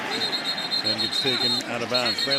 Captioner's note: whistling